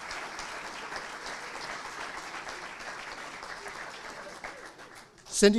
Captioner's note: audience applauding